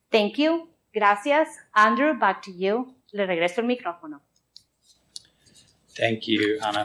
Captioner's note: spoken in English